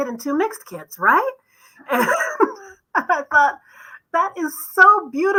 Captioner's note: laughter